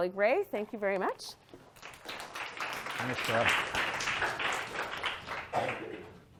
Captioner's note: applause